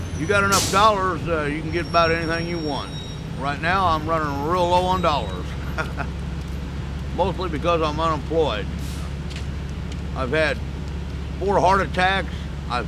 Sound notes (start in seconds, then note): 5.2 chuckles